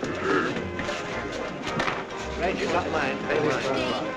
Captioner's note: customers chattering